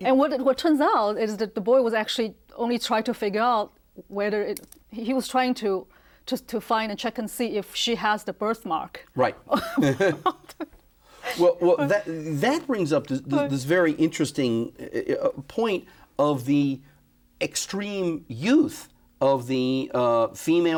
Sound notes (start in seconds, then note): 9.5 both laughing